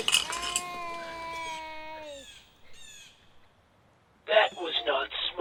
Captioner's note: gunshots; baby crying